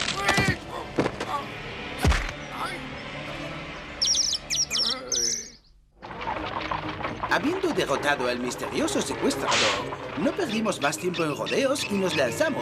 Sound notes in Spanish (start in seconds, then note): 0.1 grita; 3.8 trinos de pájaro